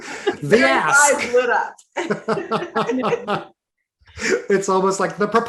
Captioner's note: everyone laughing